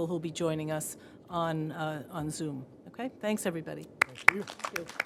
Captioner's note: applause